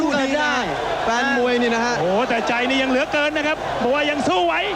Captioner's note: applause